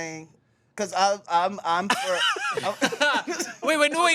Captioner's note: everyone laughs